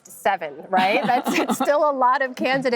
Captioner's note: laughter